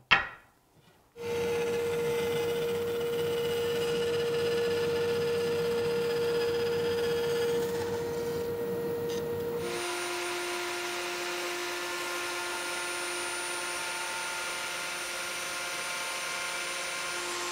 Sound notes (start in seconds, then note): 1.4 bandsaw humming; 9.9 router whirring